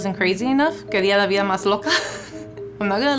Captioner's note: speaking Spanish; laughing